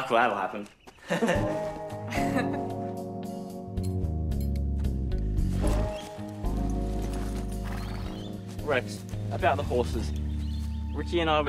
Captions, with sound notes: Trouble. Like that'll happen. [chuckles nervously] [chuckles] Rex, about the horses...